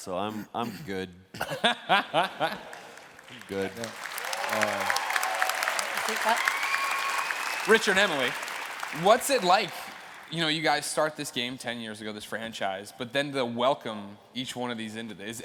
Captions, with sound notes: SO I'M GOOD. [LAUGHTER] I'M GOOD. [ CHEERS AND APPLAUSE ] >> RICHARD, EMILY, WHAT'S IT LIKE? YOU KNOW, YOU GUYS START THIS GAME TEN YEARS AGO, THIS FRANCHISE, BUT THEN THE WELCOME -- TO WELCOME EACH ONE